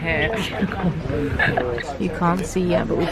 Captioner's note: laughs